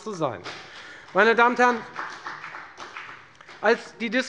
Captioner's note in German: Beifall bei der FDP